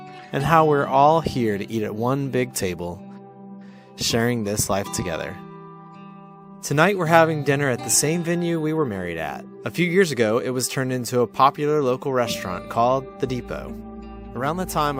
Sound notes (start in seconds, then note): none